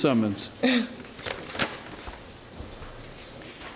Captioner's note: laughs